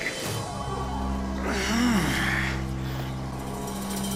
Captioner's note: grunting